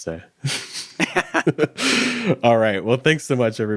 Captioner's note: chuckling